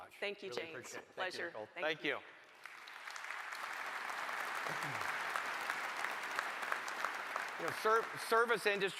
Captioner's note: applause